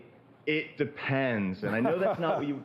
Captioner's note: laughter